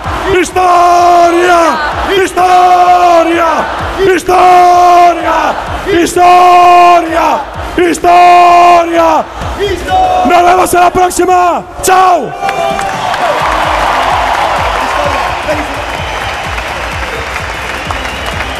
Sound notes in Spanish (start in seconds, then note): 11.9 Aplausos y gritos